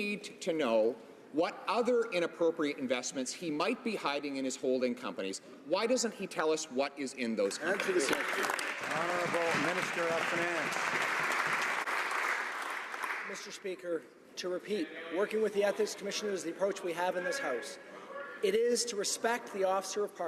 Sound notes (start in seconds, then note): 11.4 some Applause